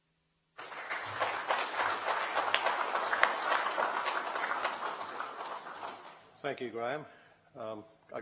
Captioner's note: applause